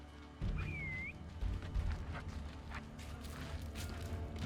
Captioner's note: fred whistles